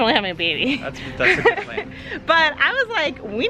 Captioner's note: laughing